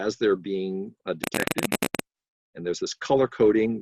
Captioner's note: crackling